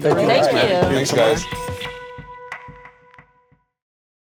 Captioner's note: group chattering